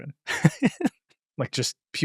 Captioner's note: laughs